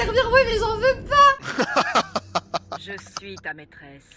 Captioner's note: laughs